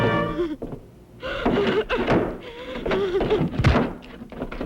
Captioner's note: woman sobbing; fist pounding